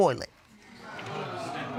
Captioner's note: audience exclaims